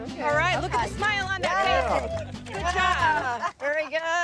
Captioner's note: group cheering